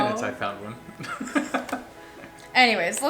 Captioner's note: male Voice; laughs